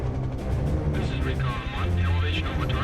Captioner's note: pilot on radio